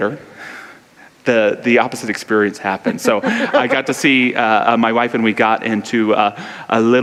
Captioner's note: laughs